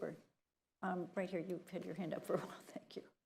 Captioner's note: laughs